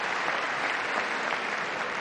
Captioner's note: applause